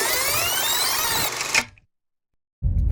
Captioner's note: click